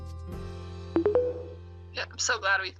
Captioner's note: tones